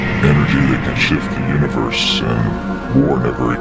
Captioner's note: distorted Voice